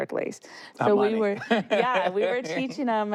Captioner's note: laughs